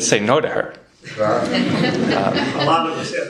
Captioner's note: laughter